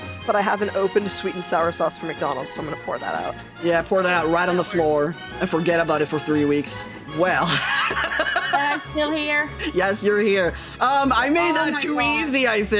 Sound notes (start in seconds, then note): 7.5 laughing